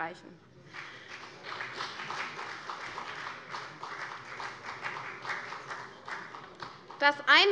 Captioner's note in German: Beifall CDU